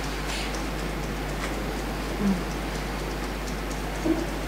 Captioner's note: fingers tapping